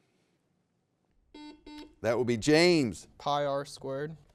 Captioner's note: buzzer beeps